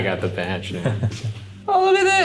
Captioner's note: laughing